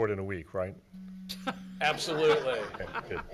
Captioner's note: audience laughs